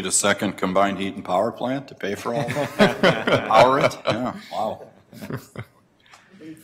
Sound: laughter

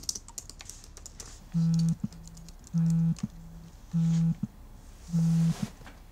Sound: phone ringing

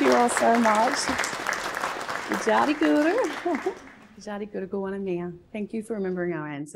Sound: speaks in Gadigal language

